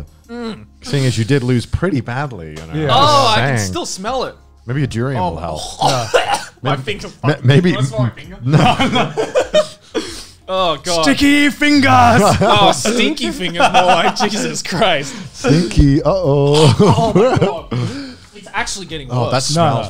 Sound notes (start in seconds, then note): 5.6 coughs; 9.7 laughs